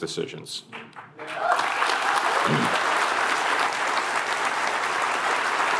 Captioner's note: applause